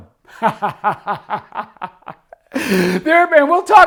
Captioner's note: laughs